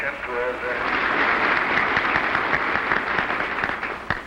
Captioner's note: applause